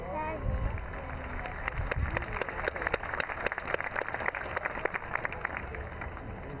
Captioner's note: clapping